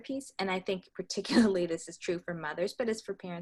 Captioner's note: laughs